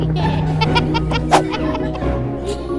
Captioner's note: kids laughing